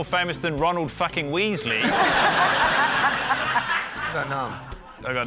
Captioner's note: laughter